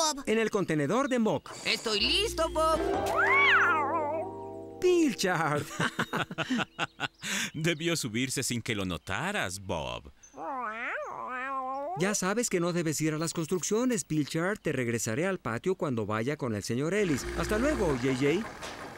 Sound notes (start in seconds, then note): 5.5 laughing